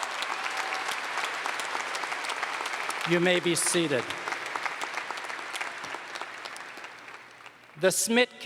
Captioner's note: applause